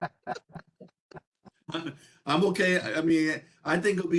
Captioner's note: laugh